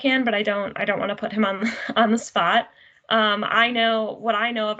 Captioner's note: giggles